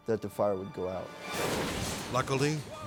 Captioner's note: dramatic whoosh